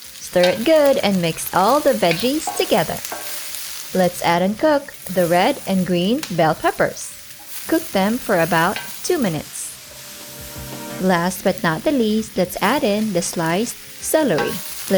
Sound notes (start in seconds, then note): 3.2 sizzling; 9.8 oil sizzling